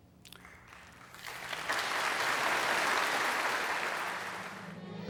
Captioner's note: applause